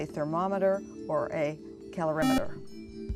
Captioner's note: buzzer